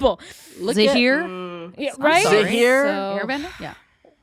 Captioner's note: sighs